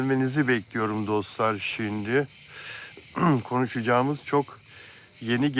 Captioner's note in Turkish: boğazını temizler